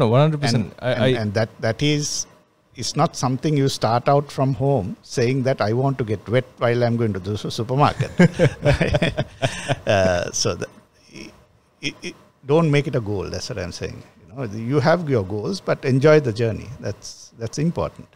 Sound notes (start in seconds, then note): 8.0 laughs